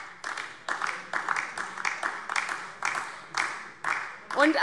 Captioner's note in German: Beifall DIE LINKE